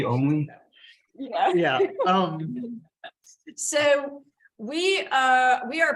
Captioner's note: laughter